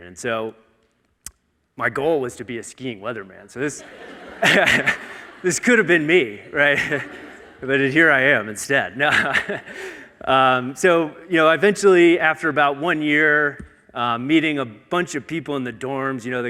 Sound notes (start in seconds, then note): 3.6 audience laughing; 4.3 chuckles; 7.0 chuckles; 9.0 laughs